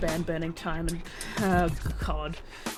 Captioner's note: groans